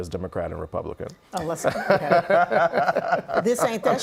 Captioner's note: laughing